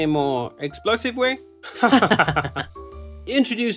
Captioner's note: laughs